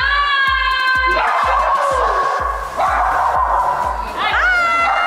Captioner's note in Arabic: كلاب تنبح